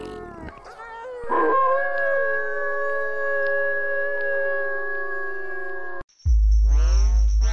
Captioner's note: werewolf Howl